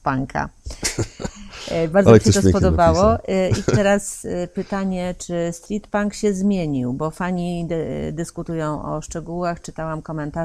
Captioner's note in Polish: śmiech